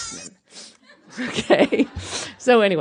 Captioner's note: laughter